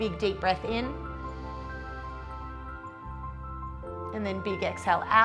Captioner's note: inhales